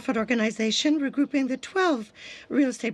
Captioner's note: speaking french